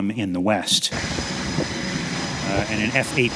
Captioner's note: jet roaring